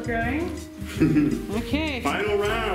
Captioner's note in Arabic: يضحك